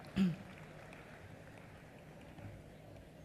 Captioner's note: applause